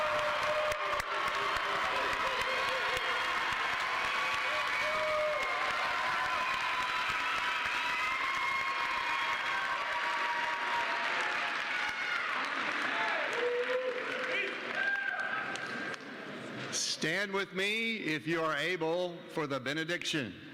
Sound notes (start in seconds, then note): 6.1 cheers and applause